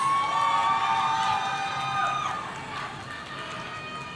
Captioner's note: audience cheering